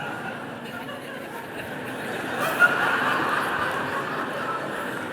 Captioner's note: audience laughter and clapping